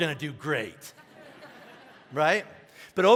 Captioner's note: congregation laughing